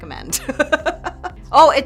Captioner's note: laughing